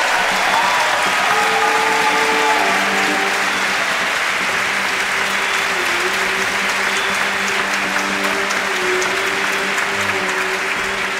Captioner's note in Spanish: aplausos